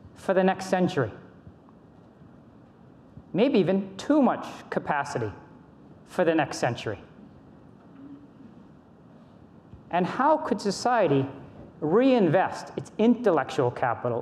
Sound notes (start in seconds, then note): none